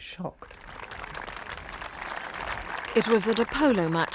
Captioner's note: audience applauding